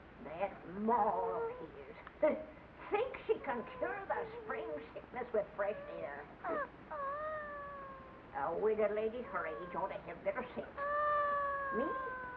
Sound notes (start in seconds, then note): 3.4 scoffs; 6.8 child whimpers; 8.3 granny grumbles